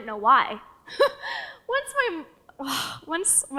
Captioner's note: laughs